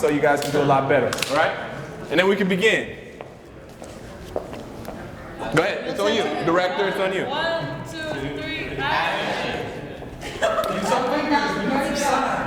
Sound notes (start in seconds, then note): 9.5 crowd quietly joins; 10.2 laughs